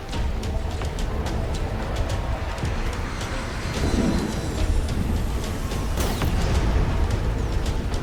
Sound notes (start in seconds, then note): 0.0 dramatic music; 3.6 aircraft falling